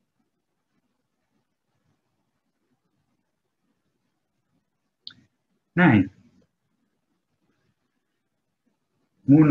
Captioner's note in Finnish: hiljaisuus